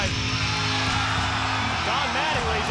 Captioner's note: crowd cheers